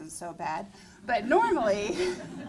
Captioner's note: laughter